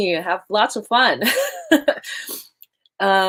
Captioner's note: chuckle